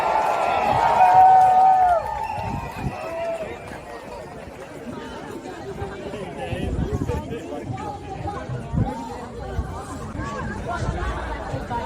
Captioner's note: cheering